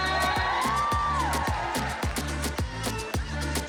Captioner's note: audience cheers and applauds; house music continues